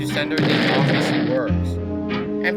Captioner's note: boom!